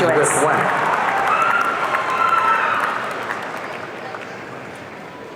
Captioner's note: audience cheering